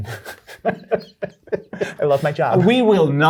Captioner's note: both laugh